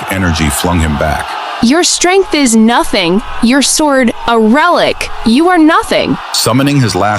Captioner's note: sneering